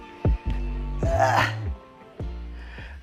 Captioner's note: grunts